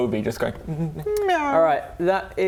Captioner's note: meow